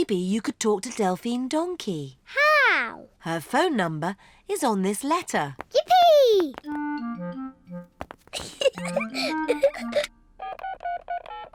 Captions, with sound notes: Maybe you could talk to Delphine Donkey. -How? -Her phone number is on this letter. Yippee! (GIGGLES)